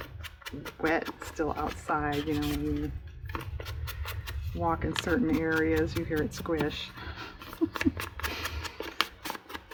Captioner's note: laughs